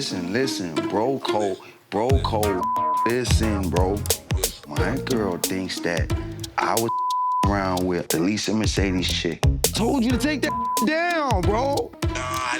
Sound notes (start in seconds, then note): 2.2 beep; 6.8 beep; 10.4 beep